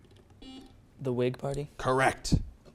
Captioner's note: buzzer beeps